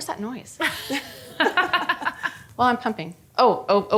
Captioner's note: group laughing